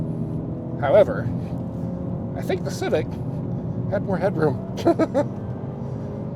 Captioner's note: chuckles